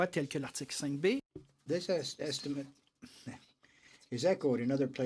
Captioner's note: speaking in french